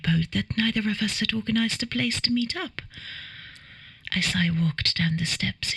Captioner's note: none